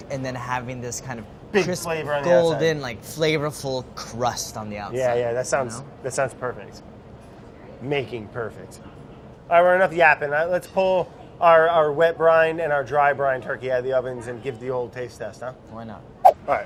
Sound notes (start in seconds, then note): none